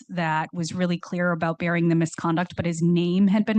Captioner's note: none